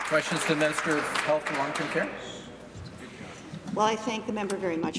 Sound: applause

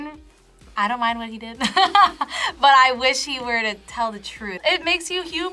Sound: laughs

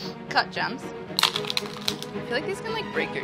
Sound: crackling

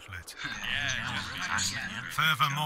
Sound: mumbles in approval

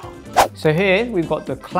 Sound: whooshing

